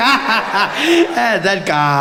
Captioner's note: Jacob Zuma laughing